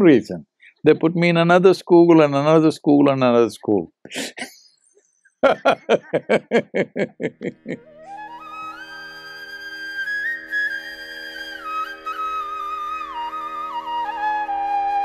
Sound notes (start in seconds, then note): 9.6 laughs